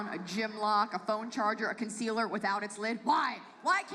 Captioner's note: none